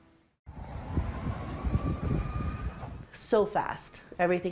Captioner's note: sirens ringing